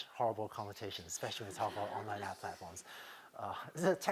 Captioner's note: laughter